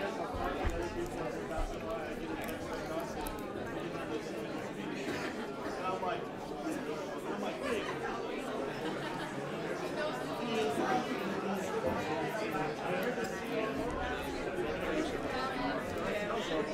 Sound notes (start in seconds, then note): 10.5 overlapping chattering